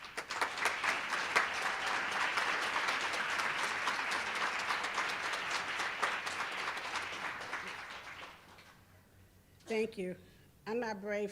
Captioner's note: applause